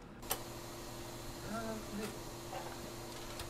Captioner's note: vacuum sound, Jack singing